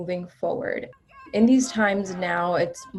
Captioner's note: protesters chanting